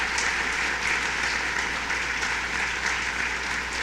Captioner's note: applause